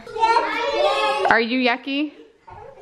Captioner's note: children babble